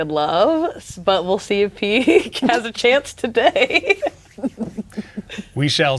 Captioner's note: laughing